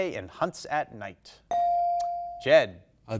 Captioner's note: bell dinging